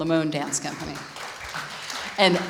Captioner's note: audience applauding